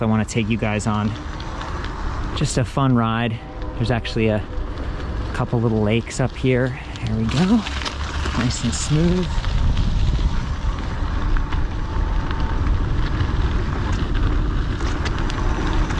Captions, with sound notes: I wanna take you guys on just a fun ride. There's actually a couple of little lakes up here. Here we go. Nice and smooth. (bike gears rattling)